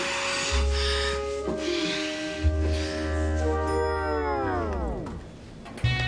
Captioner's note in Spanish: Jadea y sopla